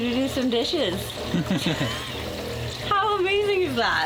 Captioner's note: chuckling